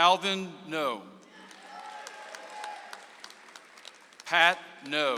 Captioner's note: audience applauds